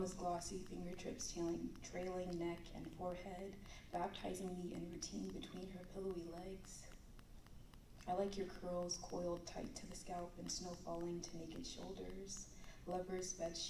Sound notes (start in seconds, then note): none